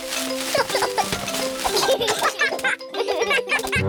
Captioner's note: peppa and george giggle